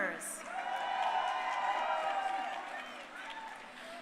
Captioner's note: crowd cheering